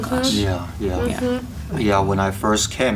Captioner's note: students Agreeing